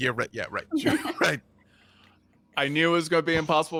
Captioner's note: people laughing